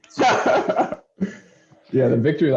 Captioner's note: laughter